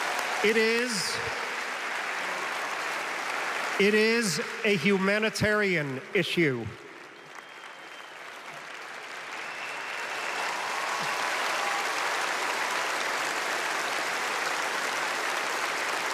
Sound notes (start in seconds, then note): 5.2 applause